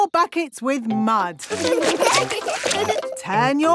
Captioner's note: laughing